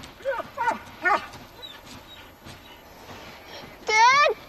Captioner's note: dog barking